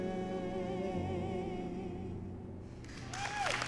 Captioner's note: cheering and applause